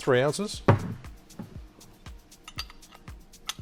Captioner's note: thuds; clinks